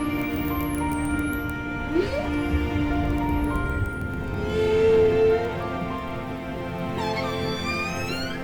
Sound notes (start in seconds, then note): 4.3 whales singing